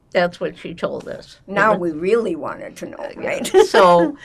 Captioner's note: laughing